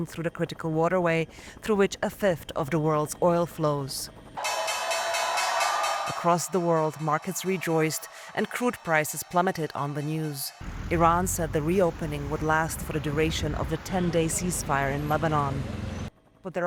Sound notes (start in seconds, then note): 4.4 bell ringing